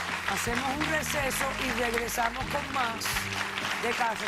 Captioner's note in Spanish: aplausos